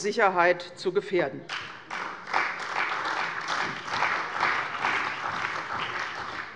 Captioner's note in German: Beifall bei der CDU und dem BÜNDNIS 90/DIE GRÜNEN